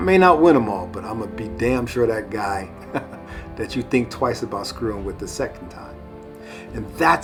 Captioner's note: chuckle